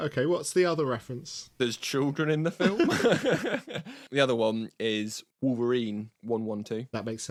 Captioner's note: laughs